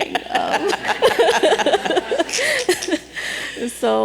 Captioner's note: laughter